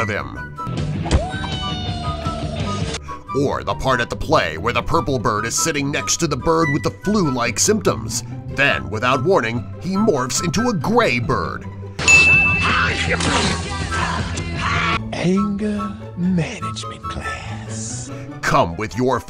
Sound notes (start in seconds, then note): 14.0 sneeze x1.5